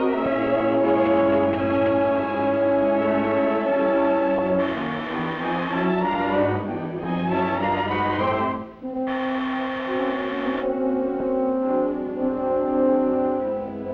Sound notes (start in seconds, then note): 4.5 buzz